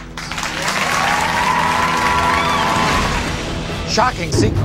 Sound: audience applauding; cheering

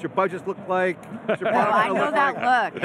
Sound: laughs

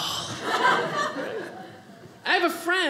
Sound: audience laughing

